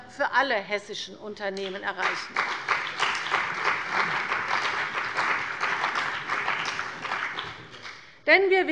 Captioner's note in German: Beifall bei der CDU und dem BÜNDNIS 90/DIE GRÜNEN